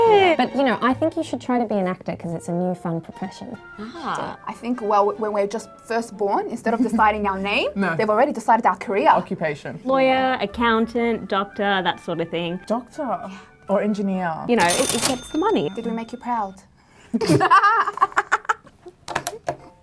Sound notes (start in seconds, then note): 17.2 laughing